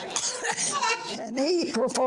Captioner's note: audience laughter